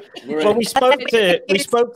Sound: group laughing

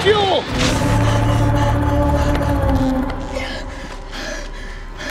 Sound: Misty heavy breathing

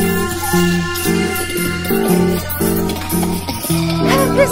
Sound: laughing

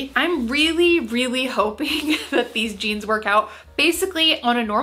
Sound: chuckles

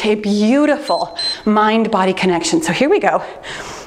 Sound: timer beeps

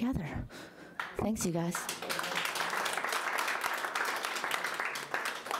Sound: audience applauding

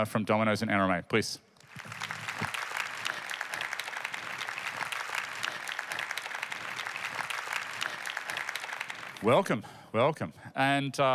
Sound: applause

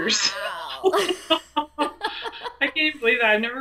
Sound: laughs

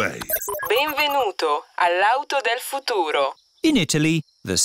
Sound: chuckles; beeps; speaks italian

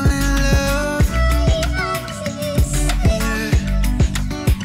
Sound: sharp female voice

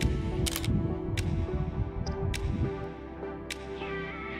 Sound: camera clicking

